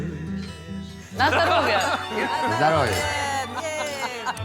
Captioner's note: indistinct cheering